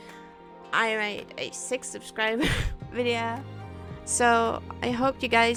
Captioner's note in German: hust-lach